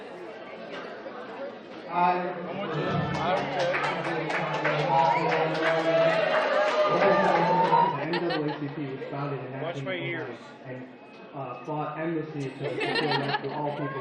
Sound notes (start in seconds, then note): 7.9 laughter